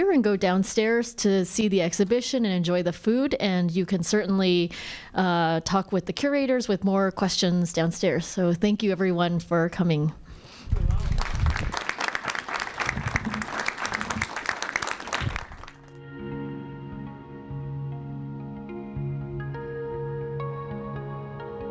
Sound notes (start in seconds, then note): 10.7 audience applauding; 15.8 gentle music